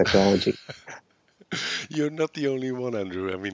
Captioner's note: laughs